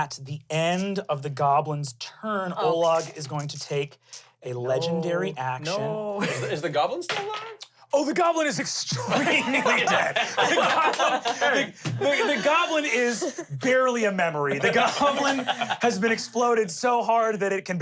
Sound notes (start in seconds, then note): 9.0 everyone laughs